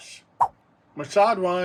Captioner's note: swap sound